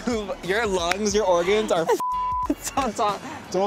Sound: laughs; beep

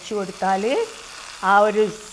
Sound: oil cracks

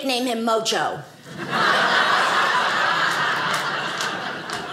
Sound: audience laughing

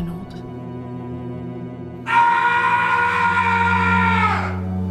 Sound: screaming

